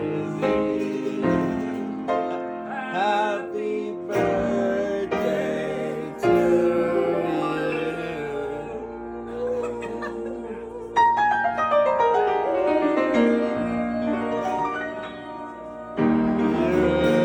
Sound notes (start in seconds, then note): 10.2 group laughing; 13.2 dramatic piano music